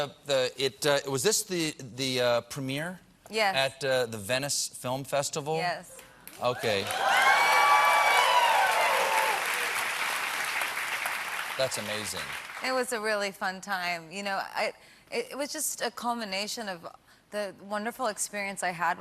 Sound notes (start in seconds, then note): 9.9 cheers and applause